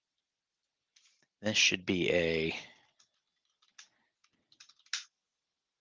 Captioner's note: keyboard clicking